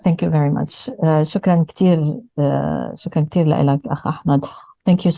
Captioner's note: speaking arabic